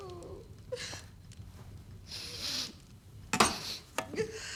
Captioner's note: woman sniffs